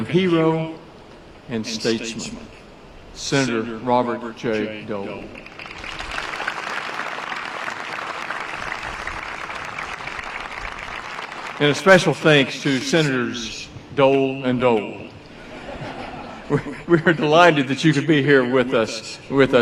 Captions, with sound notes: Senator Robert J Dole. (Applause) Had a special thanks to Senators Dole and Dole. We are delighted that you could be here with us today for this special occasion.